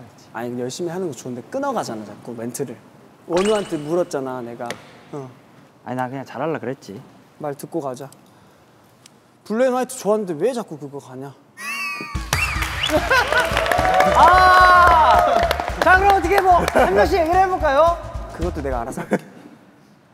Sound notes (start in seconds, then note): 12.3 applause